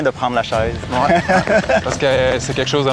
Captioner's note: laughs